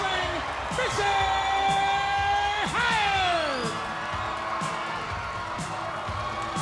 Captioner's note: crowd cheering